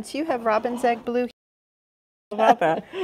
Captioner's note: chuckling